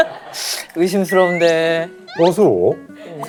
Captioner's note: Scratch